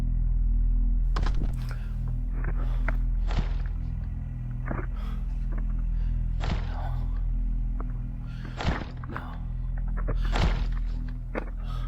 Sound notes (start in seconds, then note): 0.4 eerie music; 2.5 banging on roof